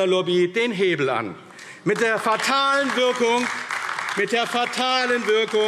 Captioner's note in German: Beifall AfD